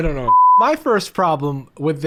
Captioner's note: beep